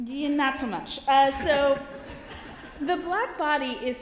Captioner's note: laughter